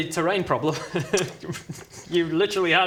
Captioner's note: evil laugh